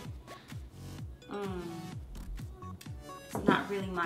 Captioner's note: groaning